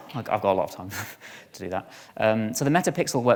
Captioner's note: chuckles